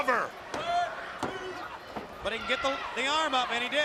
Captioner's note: crowd chatter